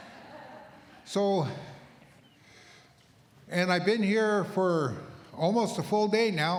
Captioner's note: laughter